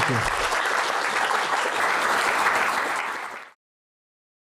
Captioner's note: applause